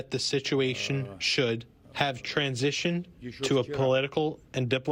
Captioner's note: speaking in native tongue